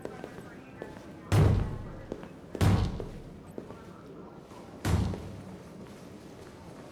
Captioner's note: banging